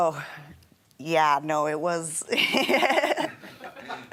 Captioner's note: laughs